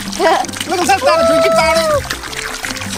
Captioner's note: giggles